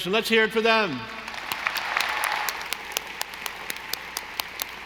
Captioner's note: audience applauding